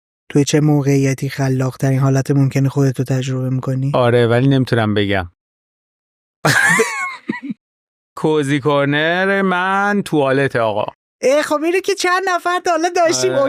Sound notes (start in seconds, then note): 6.4 laughs